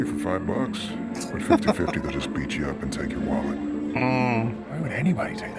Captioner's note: laughing